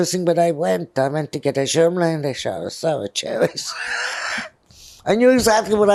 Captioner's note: laughing